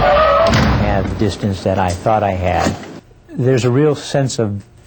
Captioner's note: crash!